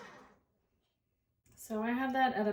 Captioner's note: KitchenAid working